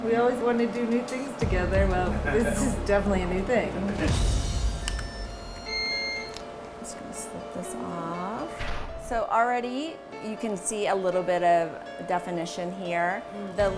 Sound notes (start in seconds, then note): 4.8 machine beeps